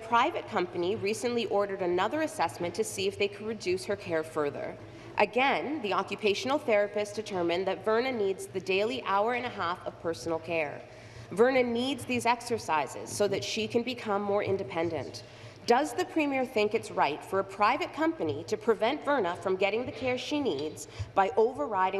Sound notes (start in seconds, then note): none